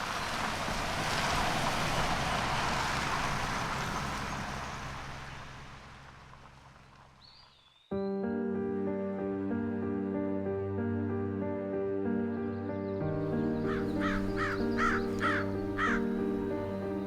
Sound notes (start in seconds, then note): 7.9 soft poignant music; 9.2 bird cawing